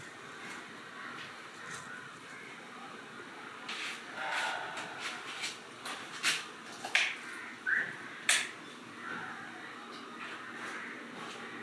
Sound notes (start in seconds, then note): 4.2 sighs; 7.0 light switch clicking